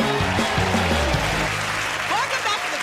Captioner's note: cheers and applause